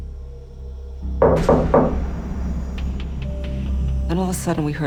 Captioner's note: knocking